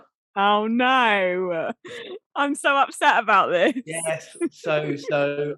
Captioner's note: laughing